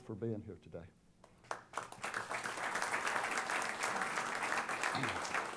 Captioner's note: applause